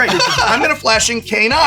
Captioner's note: laughs